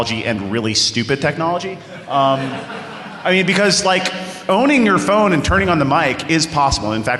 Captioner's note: laughter